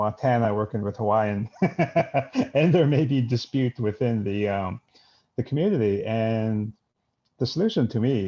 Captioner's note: laughs